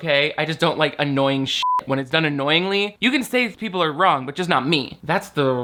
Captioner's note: beep